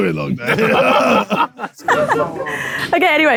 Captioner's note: panel laughs